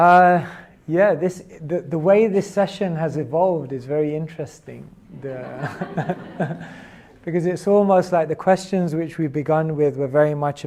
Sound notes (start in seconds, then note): 5.2 laughs